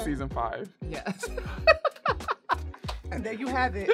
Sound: laughing

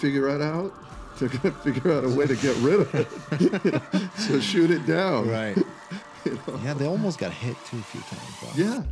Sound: laughter

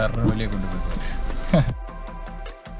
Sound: chuckles

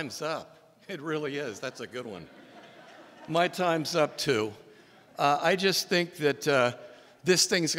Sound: laughter

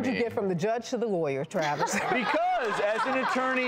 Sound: audience laughing and applauding

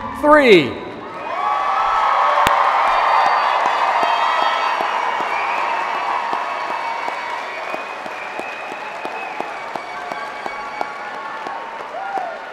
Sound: cheers and applause

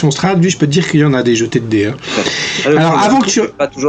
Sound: laughs

